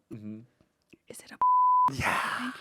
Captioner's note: beep